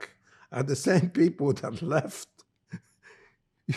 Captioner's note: laughing